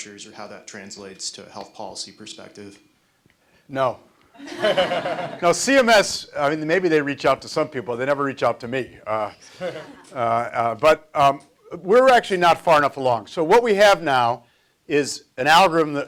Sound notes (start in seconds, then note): 4.4 audience laughs